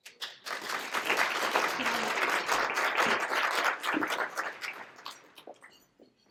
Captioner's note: applause